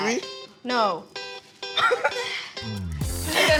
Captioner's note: chuckles